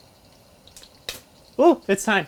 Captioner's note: pop